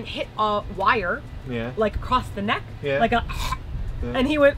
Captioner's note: choking